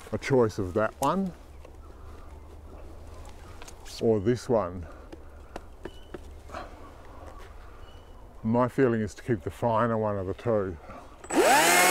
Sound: chainsaw

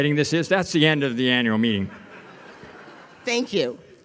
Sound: audience laughing

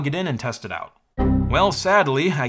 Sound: Windows XP Critical Stop error sound

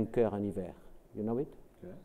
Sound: speaks French

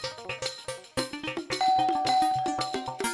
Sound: doorbell rings

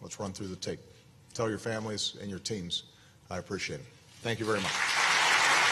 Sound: applause

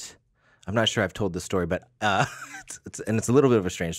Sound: laughs

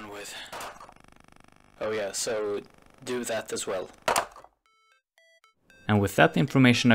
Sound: phone hangs up; distorted voice; phone hangs up

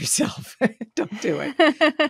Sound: laughing; laughs

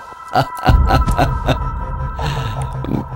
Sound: laughs

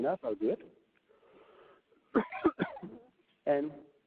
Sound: coughs

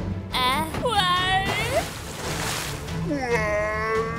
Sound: footsteps pattering; water splashes

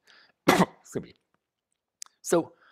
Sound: coughs

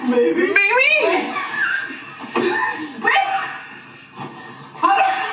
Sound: both laughing

